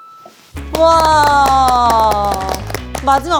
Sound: applause

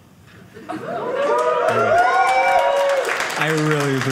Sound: audience cheering

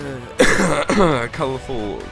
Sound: cough

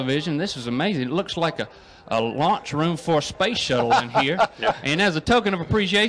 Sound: laughs

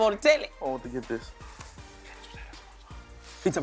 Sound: whispers

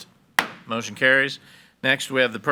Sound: gavel bangs

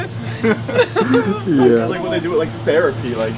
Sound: laughing

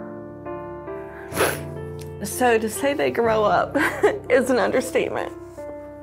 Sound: laughs

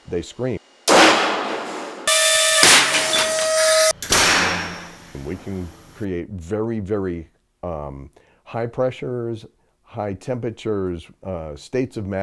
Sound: sound of three shots

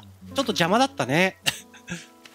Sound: giggle

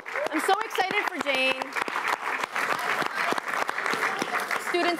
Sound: applause

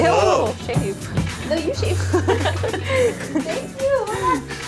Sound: all laughing

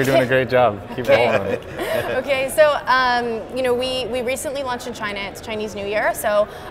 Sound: laughs

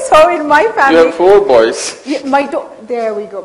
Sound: laughs

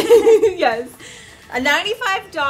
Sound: laughter

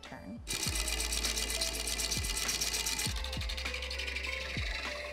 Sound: lathe buzzing

